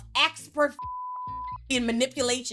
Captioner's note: beep